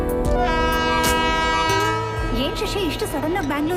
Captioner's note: train horn blaring